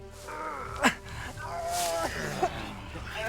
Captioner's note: groaning